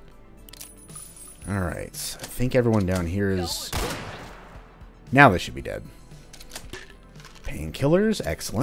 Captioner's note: crack